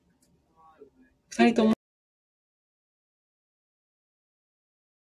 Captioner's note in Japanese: 音声が途切れた